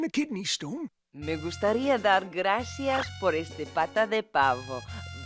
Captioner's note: speaking Spanish